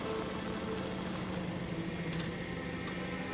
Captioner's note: none